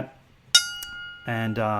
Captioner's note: bell dings